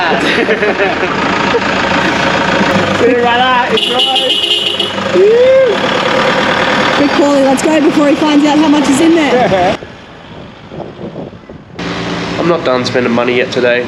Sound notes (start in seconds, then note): 0.0 laughing; 3.6 beeping horn